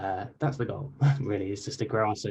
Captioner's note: chuckles